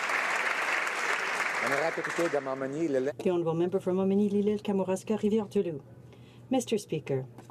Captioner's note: some Applause